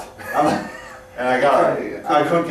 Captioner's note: both chuckles